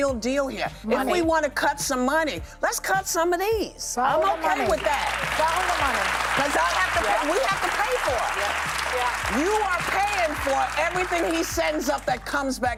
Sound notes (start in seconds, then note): 7.3 applause